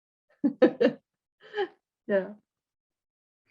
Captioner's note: laughs